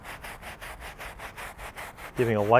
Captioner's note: scrubbing